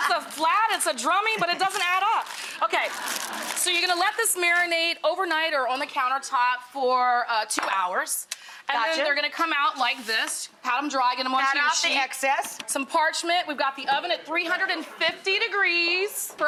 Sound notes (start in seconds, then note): 0.0 laughs; 2.9 audience laughs